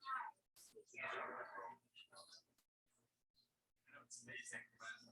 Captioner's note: people chattering indistinctly